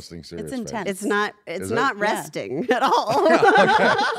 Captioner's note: laugh